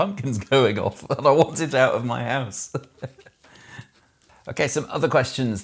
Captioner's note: laughs